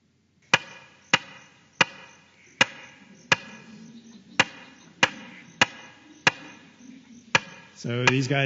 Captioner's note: sound of Woodworker frog call